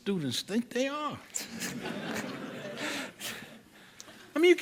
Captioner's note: laughter